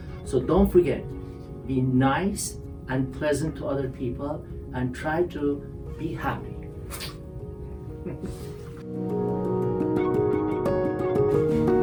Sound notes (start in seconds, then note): 8.0 laughs; 9.2 light music